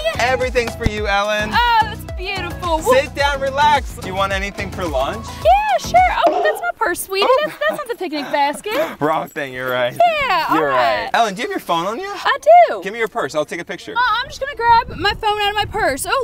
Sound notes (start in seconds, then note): 8.9 laughs nervously